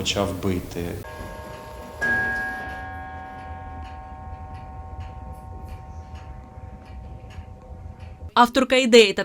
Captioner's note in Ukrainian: б'є годинник